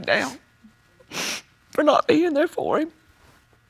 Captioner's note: sniffles